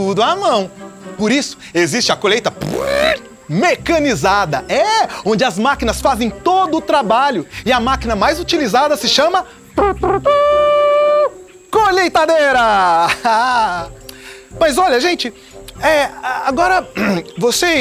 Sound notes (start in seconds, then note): 2.4 mouth noises; 11.6 imitates trumpet with mouth; 15.0 laughter